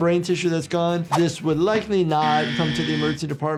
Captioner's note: soft music; buzzer music; graphics swishing